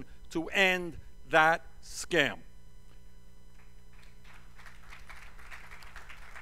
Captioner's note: applause